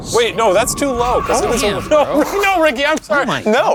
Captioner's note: thunder rumbling; overlapping chatter